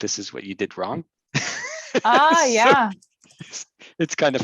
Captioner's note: man laughing